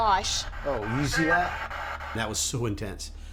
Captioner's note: spirit box voice